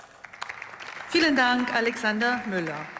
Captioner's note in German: Beifall